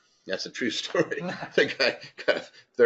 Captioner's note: laugh